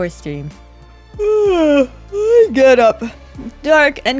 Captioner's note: yawning